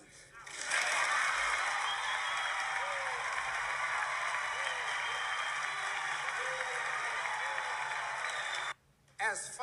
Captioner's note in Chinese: 观众鼓掌👏